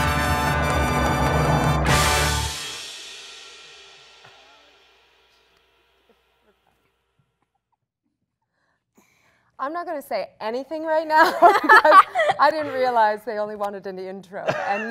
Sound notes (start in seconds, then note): 11.2 laughing